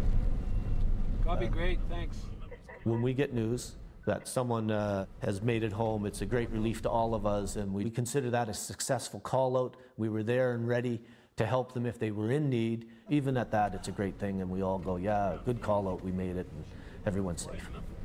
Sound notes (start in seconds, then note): 3.8 radio Transmission; 13.4 voiceover